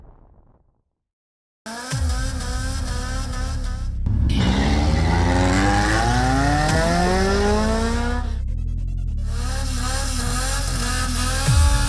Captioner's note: cars revving